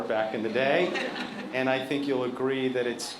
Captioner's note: laughter